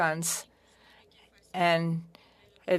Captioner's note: speaking french